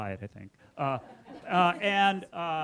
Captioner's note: audience laughs